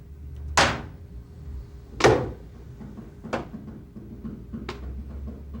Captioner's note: hand slams